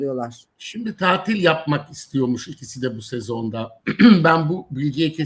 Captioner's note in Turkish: boğazını temizler